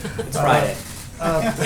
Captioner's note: laughter